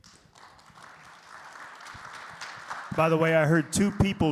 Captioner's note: audience clapping